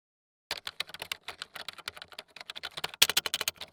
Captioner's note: keys clicking